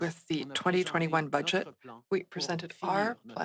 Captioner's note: speaking French